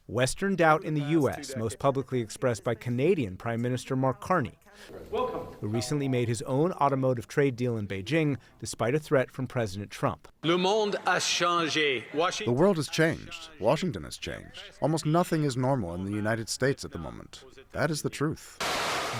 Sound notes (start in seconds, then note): 11.1 through translator